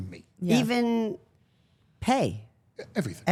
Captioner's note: none